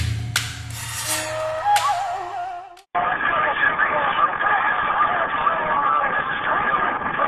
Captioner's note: soldiers speaking over the radio calls